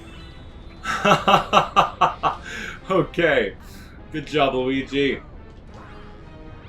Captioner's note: laughs